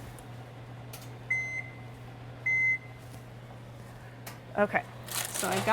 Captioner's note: oven beeps